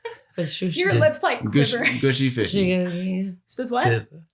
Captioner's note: laughs